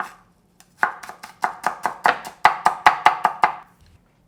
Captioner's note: knife chopping